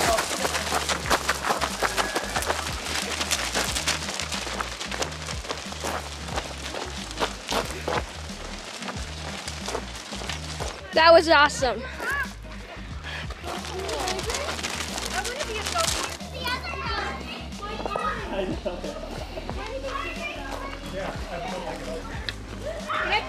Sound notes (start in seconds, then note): 0.2 goats running on gravel; 7.1 light upbeat music; 12.9 goats running on gravel; 16.6 kids chattering; 19.4 light upbeat music